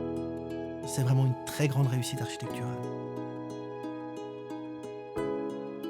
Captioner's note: speaks in foreign language